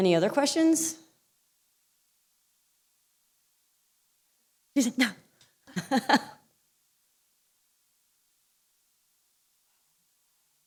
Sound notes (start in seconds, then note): 5.7 laughter